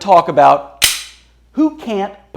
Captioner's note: gun clicks